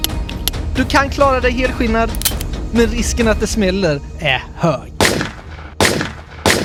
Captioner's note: click